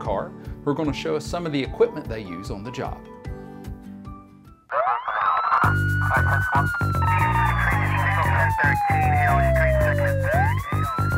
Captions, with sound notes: who are gonna show us some of the equipment they use on the job. (siren blaring) (upbeat music)